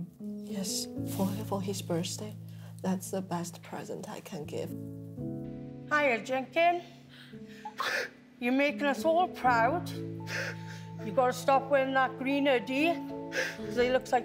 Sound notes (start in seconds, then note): 7.6 sobs